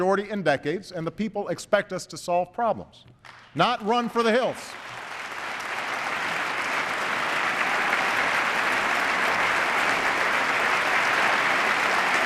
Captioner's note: applause